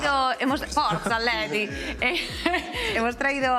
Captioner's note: laughs; both of them laugh